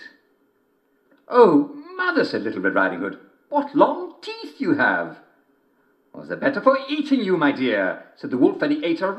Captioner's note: German accent; German accent